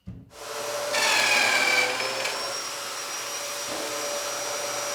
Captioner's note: drill whirring; tool whirring